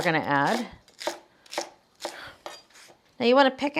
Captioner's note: knife thudding